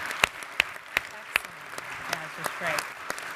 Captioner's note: audience continues applauding